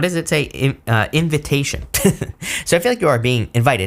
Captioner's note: chuckles